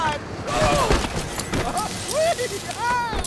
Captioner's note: laughs